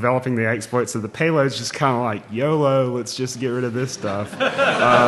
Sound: laughing

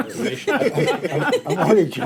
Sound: laughing

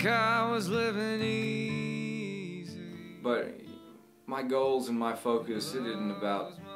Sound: speaks

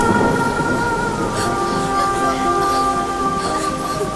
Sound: sobbing

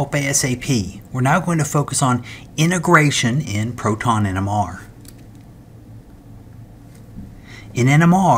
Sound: turn page

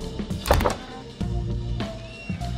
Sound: creaking

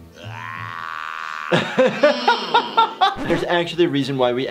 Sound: laughs

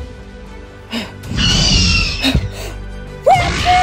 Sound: velociraptor sounds

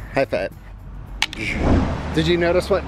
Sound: laughs

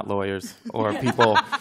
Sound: laughter

